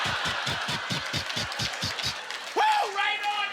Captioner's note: audience laughter; imitating wheel clicking